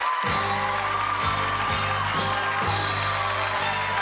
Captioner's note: cheers and applause; upbeat music